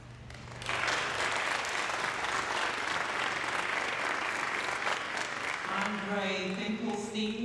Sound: applause

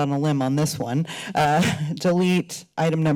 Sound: laughter

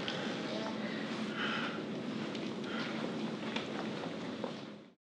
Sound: Susie sighs

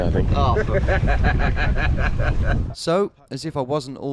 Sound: laughs

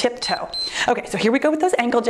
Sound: timer beeps

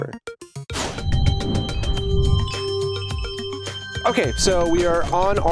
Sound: whoosh and chimes

